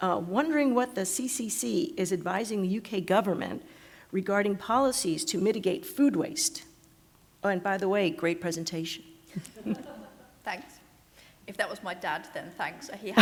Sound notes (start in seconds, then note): 9.3 laughter